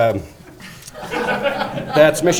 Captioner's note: audience laughing